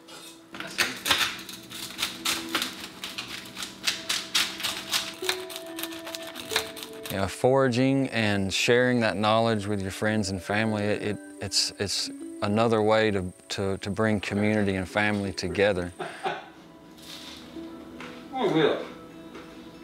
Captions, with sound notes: (crunching) - Foraging and sharing that knowledge with your friends and family, it's another way to bring community and family together. (laughing) - Real good.